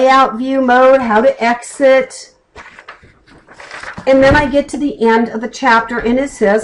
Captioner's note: flipping page